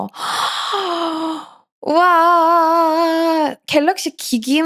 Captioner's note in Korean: 헉 소리